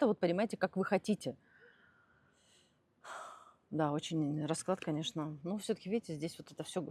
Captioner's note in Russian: вздыхает; тяжело вздыхает